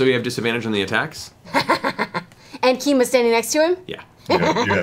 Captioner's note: triumphant laughter